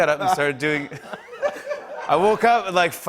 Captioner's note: laughter